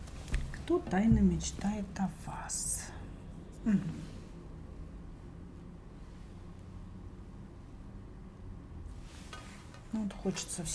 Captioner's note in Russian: откашливается